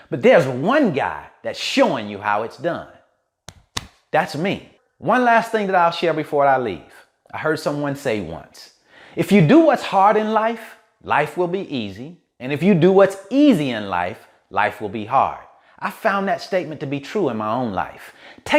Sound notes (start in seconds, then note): 3.4 taps chest